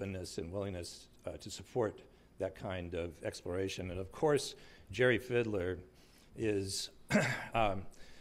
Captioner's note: clears throat